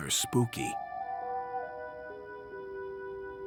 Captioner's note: owl hoots